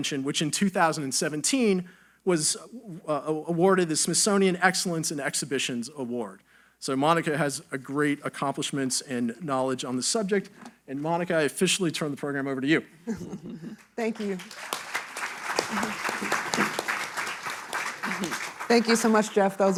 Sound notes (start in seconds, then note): 14.0 audience applauding